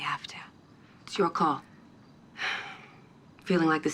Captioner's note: sighs